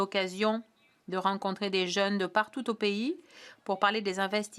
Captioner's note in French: voix de l'interprète